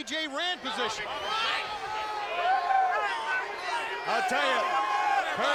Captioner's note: audience chattering